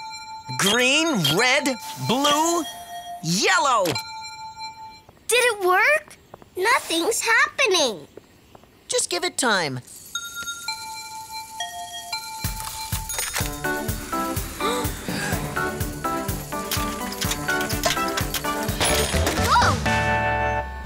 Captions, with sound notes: Green, red, blue, yellow! (tones play) Did it work? Nothing's happening! Just give it time. (tones play) (click) (gasp) (gasp) (clicking noises) Woah!